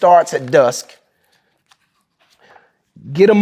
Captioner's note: pages rustling